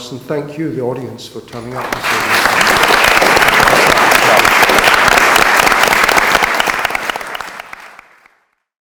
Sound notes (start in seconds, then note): 3.2 audience applauds